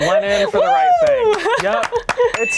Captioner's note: cheering